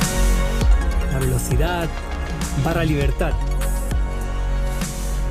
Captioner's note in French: en espagnol